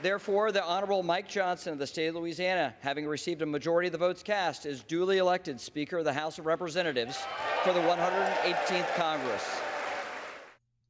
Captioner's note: applause